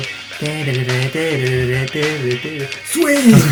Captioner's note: humming